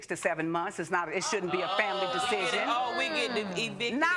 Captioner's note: audience groans